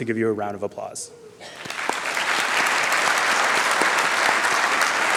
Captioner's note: applause